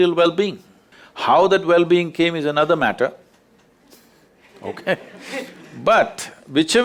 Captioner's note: laughter